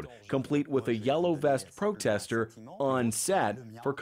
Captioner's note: speaking French